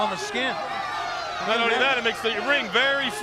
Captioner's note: crowd chatter